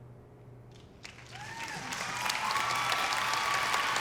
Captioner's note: audience cheering